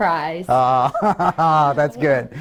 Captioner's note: laughs